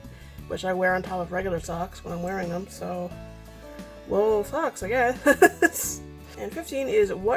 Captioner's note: laughs